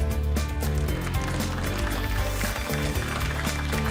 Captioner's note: applause